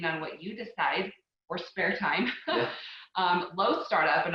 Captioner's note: chuckling